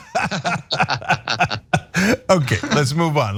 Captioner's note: laugh